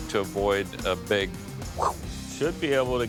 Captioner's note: whoosh